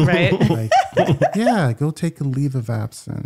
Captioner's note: laughing